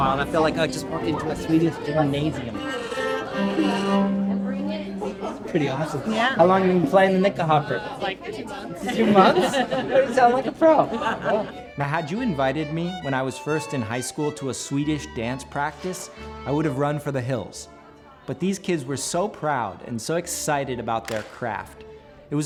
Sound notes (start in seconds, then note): 3.0 folk music; 8.7 laughs